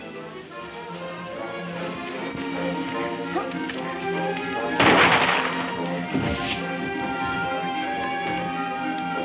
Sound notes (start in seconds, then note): 4.8 gunshot